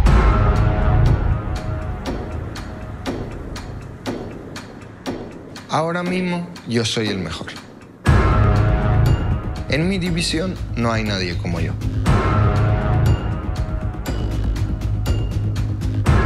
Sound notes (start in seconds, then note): 1.2 clock ticking; 1.2 dramatic instrumental music; 6.5 Topuria speaking in Spanish